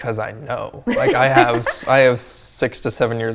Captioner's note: laughing